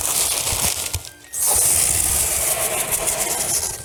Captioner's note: paper rustling